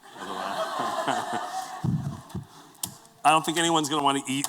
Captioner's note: laughter